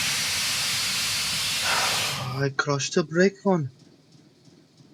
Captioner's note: sigh